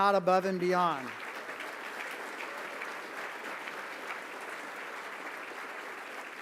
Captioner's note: applause